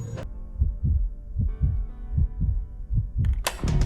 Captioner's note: heartbeat; key snaps